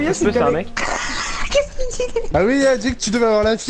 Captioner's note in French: rire